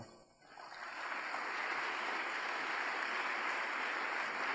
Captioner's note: audience applauds